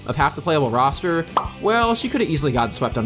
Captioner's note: pop